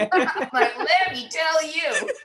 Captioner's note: laughter